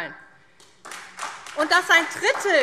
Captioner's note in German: Beifall SPD